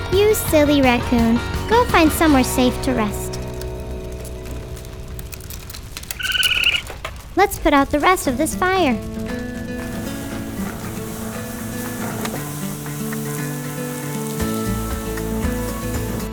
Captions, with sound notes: You silly raccoon, go find somewhere safe to rest. Let's put out the rest of this fire. (bright music) (water splashing)